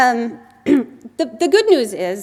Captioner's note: clear the throat